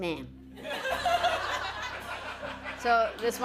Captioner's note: laughter